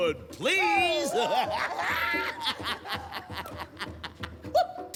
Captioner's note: laughter